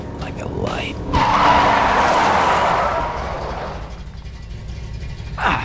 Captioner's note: tires squeal